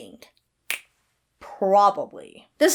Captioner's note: Hana snaps fingers